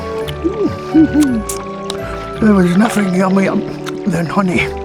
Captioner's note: vile eating sounds